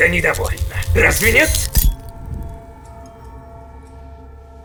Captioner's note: electricity buzzing